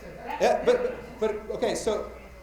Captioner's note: attendees objecting